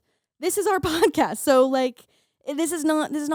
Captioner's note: laughing